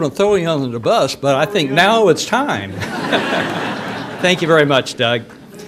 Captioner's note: audience laughter